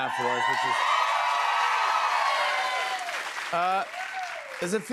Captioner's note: cheers and applause